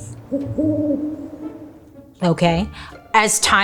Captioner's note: owl hoots